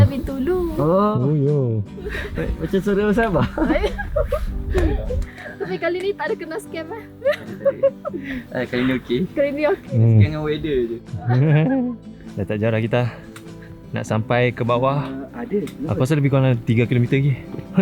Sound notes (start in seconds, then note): 7.2 laugh; 11.1 laugh